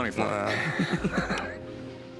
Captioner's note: laughter